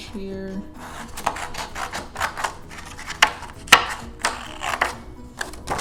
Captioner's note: scissors snipping through paper